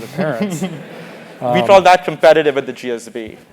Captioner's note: laugh